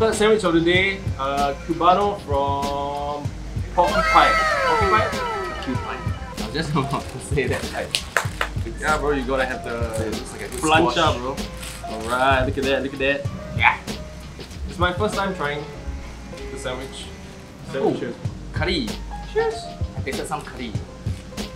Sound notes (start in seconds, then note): 7.8 clap clap